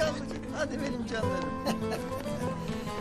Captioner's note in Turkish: Gülüyor